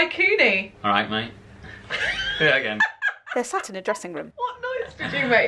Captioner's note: laughter